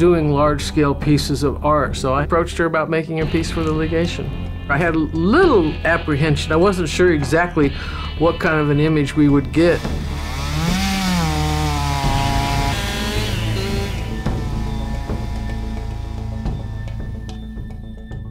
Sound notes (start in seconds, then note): 10.1 chainsaw sound